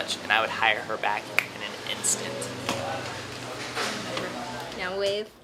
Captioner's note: snaps fingers